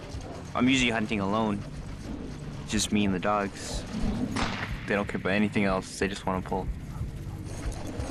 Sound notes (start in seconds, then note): 4.3 whipcrack